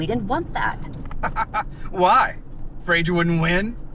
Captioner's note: Tom laughs